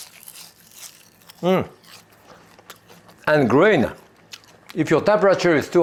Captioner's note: Jacques chewing; kale crunching